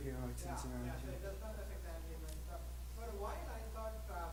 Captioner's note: voiceover